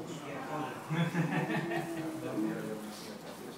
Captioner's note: laugh